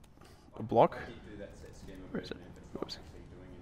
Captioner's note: voiceover